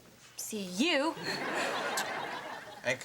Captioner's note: audience laughs